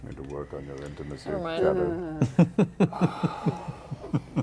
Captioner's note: laughs